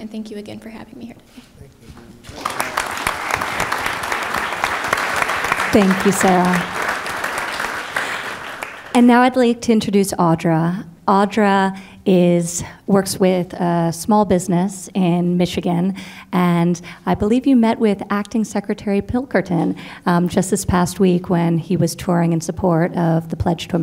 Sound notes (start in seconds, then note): 2.2 applause